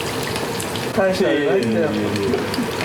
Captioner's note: laughs